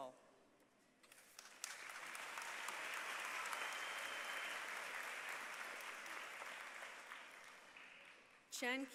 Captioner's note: applause